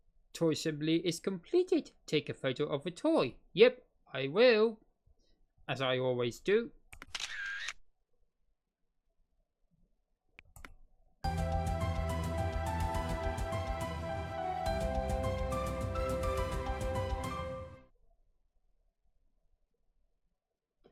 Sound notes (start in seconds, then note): 7.0 camera shutter sound